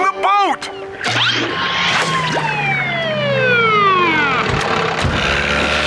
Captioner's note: siren blaring